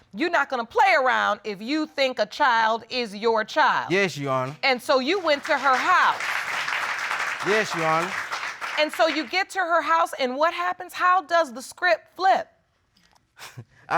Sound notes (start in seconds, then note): 5.1 audience applauding